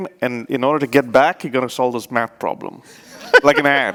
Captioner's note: laughs